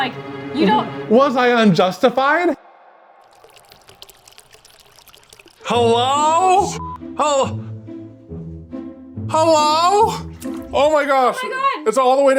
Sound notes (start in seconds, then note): 3.0 water dripping